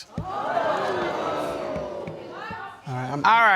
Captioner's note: audience gasping